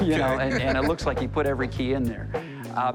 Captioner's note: laughing